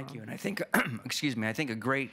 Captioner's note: clears throat